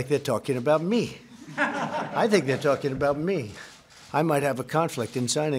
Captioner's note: laughter